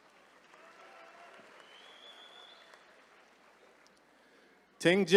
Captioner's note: attendees cheering